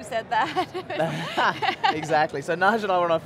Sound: laughter

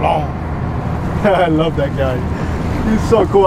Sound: laughs

